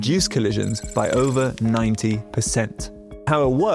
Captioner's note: graphic clicking